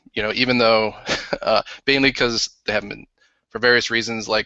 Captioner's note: laughs